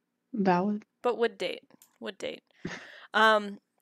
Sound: chuckles

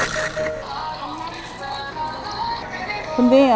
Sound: calling

